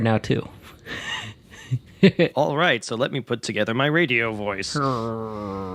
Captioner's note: laughs